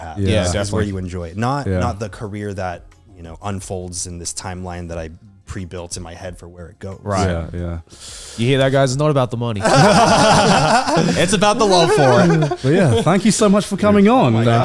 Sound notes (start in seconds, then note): 9.6 all laughing